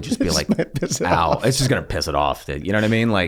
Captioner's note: laughs